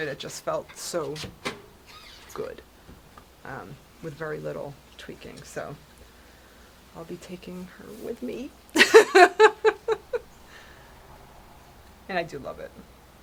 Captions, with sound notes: it just felt so good with very little tweaking. So I'll be taking her with me, (laughs) and I do love it.